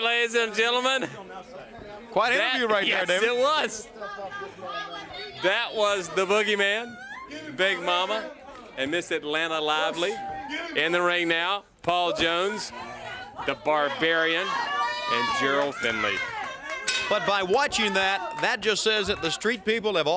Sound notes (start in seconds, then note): 16.8 bell ringing